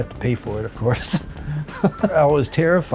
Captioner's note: laughs